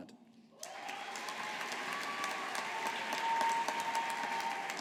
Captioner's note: audience applauding